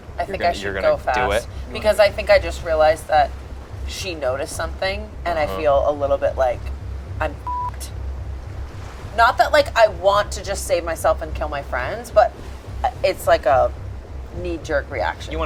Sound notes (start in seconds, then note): 7.4 beep